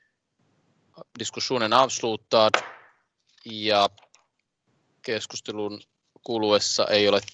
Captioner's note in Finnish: nuijan kopautus